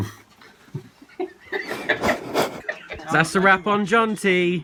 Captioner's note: breathes heavily